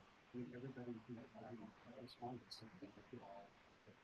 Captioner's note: murmuring